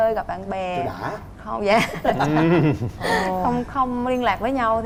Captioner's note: laughing